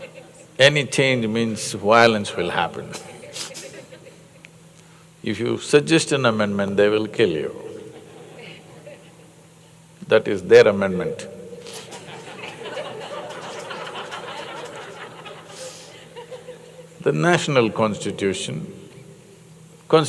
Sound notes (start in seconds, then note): 2.9 laughs; 11.7 laughter